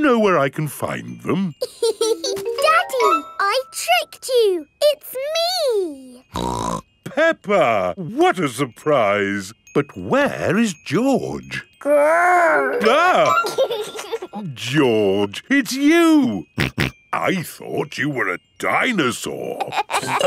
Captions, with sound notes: Do you know where I can find them? (LAUGHS) Daddy! I tricked you, it's me! (SNORTS) Peppa! What a surprise! But where is George? Grr! -(EXCLAIMS) -(GIGGLES) -George, it's you! -(SNORTING) I thought you were a dinosaur!